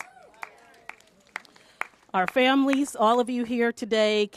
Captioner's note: applause